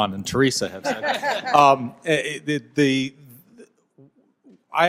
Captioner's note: laughter